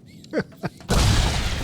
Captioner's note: laughs; explosion